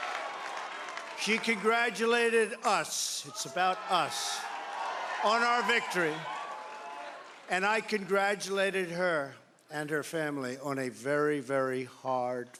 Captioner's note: cheering